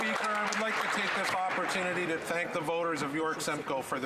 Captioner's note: some Applause